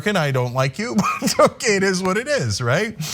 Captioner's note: laugh